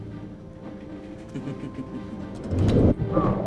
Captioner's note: laughs